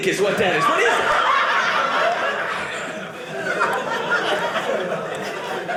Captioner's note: audience laughing